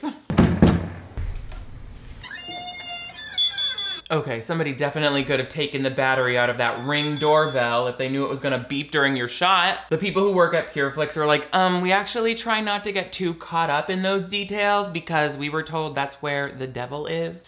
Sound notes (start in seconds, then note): 0.3 door knocking; 2.2 doorbell beeping; 2.2 door creaking